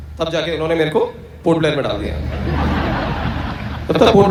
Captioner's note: audience Laughter